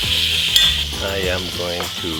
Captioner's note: metal clinking